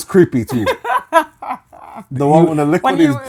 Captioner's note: laughing